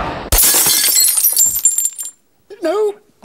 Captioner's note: whooshing; glass breaking